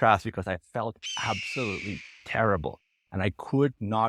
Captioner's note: vultures screeching